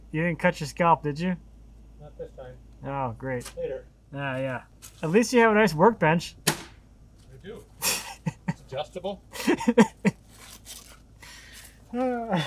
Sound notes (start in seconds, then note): 9.3 laughs